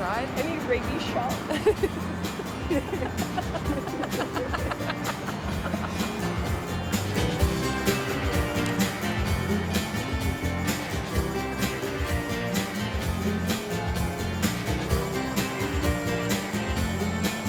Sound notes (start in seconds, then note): 6.8 laughing